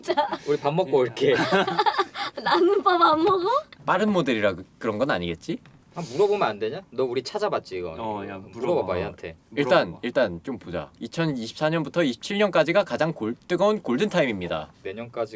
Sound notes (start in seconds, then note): 1.3 laughter